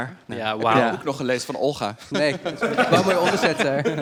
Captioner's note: starts laughing